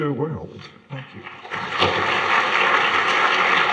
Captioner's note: applause